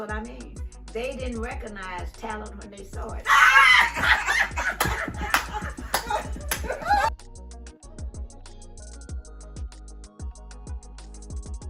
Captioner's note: laughing; upbeat music